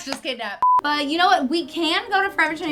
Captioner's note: beep